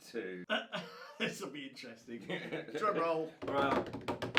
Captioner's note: laughs